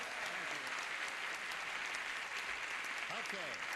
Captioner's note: applause